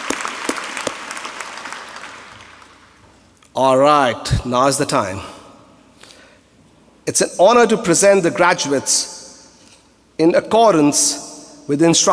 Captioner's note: applause